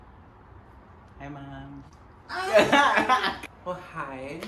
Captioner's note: group laughs